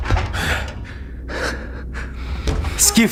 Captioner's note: man panting; speaking Ukrainian